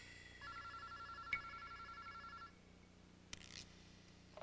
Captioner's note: ring